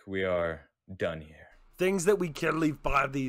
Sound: worriedly

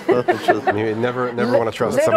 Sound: all laughing

